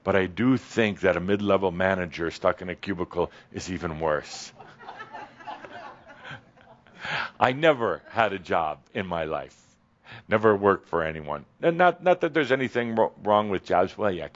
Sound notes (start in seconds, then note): 4.6 some chuckles